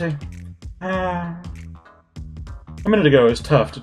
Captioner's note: sighs